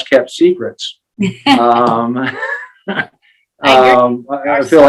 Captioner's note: laughing